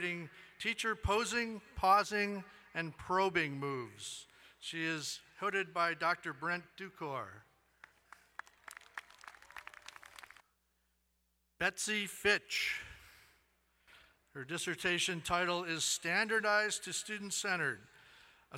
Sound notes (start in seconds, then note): 7.8 crowd cheering and applauding